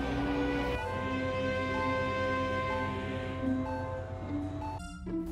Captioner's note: engines at idle